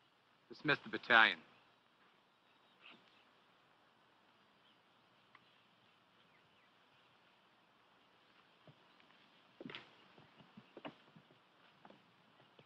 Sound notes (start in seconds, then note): none